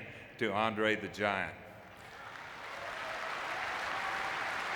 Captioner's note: audience clapping